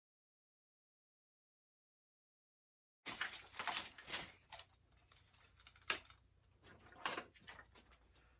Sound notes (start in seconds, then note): 3.1 rustling of toys